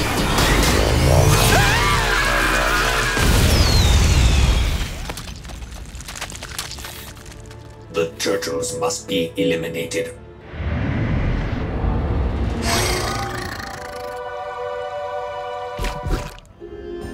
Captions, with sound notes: [screaming] The turtles must be eliminated.